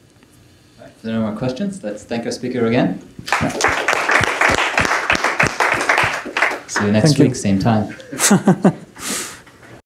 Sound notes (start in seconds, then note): 3.2 applause; 7.9 chuckles